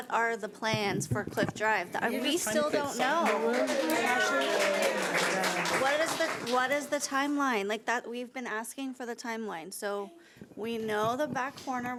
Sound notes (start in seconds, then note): 2.2 overlapping chattering; 2.5 audience applauds